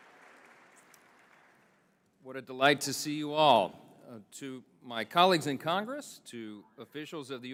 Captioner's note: applause